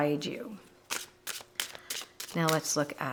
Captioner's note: cards shuffling